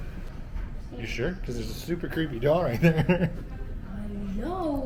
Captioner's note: nervous laughter; more nervous laughter